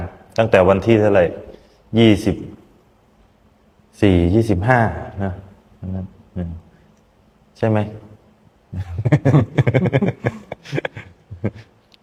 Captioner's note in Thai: เสียงหัวเราะ